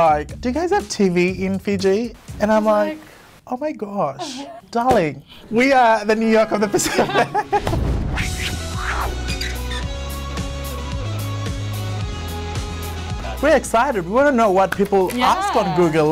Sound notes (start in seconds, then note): 6.4 both laughing; 8.5 dramatic music